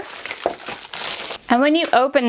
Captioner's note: paper crumpling